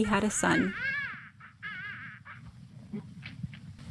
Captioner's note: newborn cries